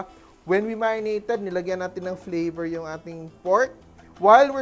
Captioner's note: sizzle; sizzle